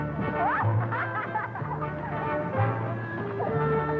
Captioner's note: upbeat music; laughing